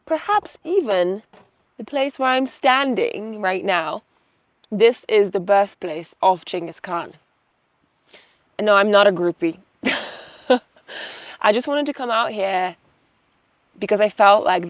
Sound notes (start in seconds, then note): 9.8 chuckles